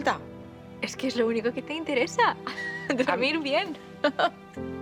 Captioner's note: laughs